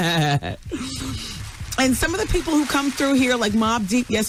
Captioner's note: laughing